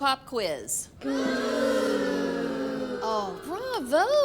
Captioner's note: kids exclaiming